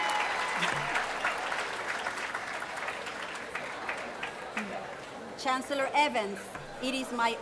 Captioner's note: applause